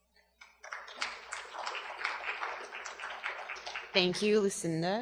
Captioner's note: applause